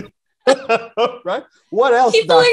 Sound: laughing

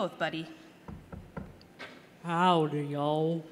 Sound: knock knock knock

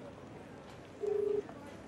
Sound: mobile Phone ringing

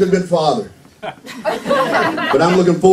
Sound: laughter

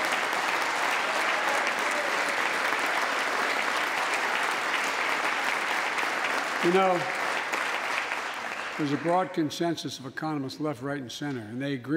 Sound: applause

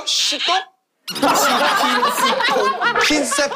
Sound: laughing

